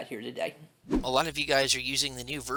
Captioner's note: air whooshing